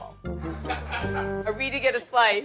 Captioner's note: people laughing